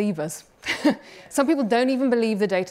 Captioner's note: laughs